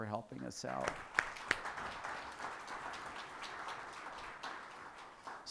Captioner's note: people applauding